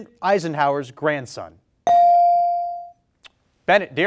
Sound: bell rings

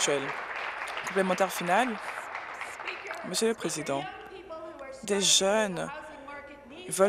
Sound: applause

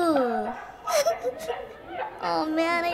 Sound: giggles

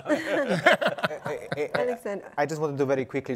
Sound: panelists laugh

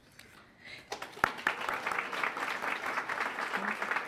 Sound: applause

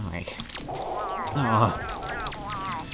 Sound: irritated growl

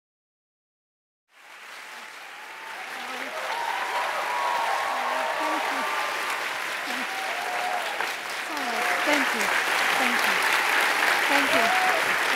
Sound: applause

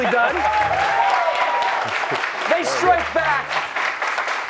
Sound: cheers and applause

